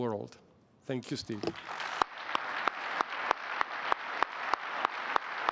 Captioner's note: applause